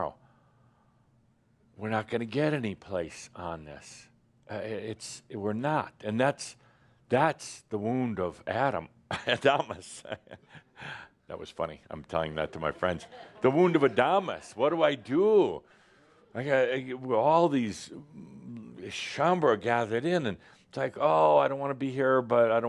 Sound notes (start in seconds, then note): 9.1 he chuckles